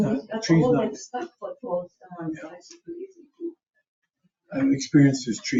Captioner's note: speaks distantly